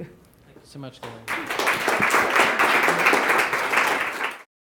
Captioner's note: audience applause